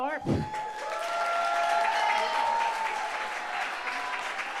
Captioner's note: audience applauds